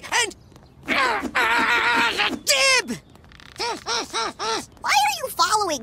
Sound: grunting

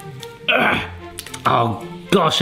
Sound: groaning

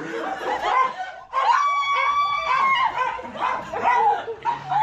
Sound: screaming

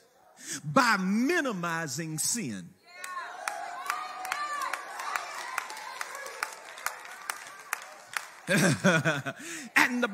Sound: congregation cheers and claps; chuckles

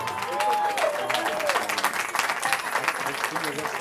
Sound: cheering

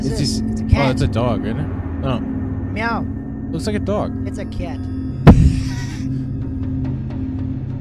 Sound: guilty Laughs

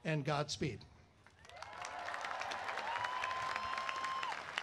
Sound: applause

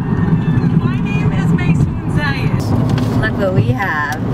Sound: voice on radio

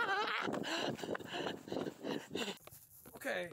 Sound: Herculano Screams In Terror; Herculano Breathes Even Heavier

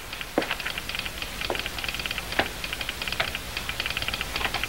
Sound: telegraph tapping

